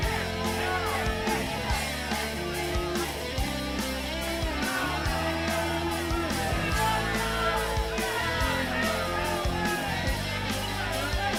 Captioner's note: crowd chatter